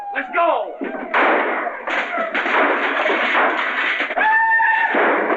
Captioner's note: gunshots and cheering